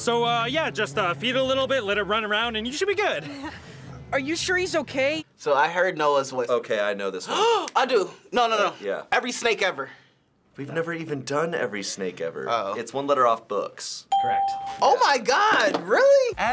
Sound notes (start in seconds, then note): 7.3 gasps